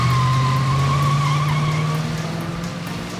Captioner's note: tire squeal